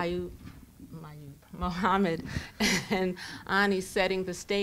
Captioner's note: laughs